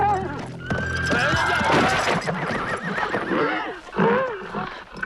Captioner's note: horses neighing